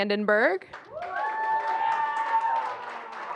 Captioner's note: applause